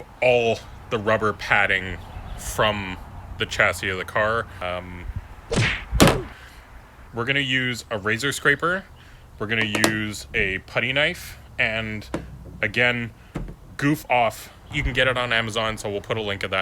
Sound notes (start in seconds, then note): 5.5 slap and thud